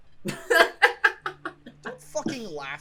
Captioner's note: laughs